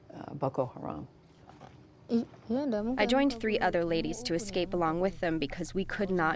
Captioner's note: through translator